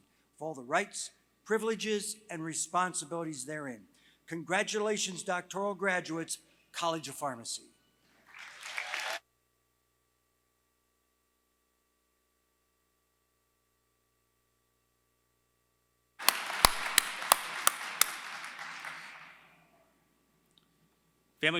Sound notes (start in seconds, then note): 7.8 applause